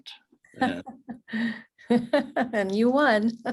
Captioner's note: laughs